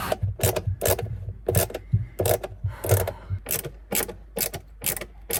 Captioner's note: ratcheting screwdriver ratchets